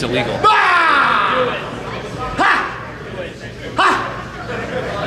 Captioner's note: laughs